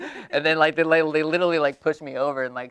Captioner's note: laughing